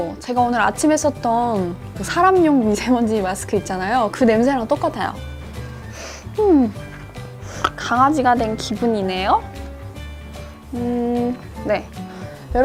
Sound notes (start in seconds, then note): 7.4 snort